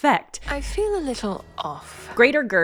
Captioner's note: with a deeper voice